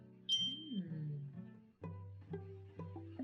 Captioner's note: bell dings